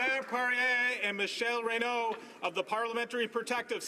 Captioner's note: applause